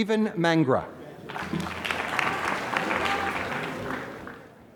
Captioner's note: applause